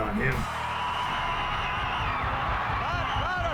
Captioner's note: crowd cheers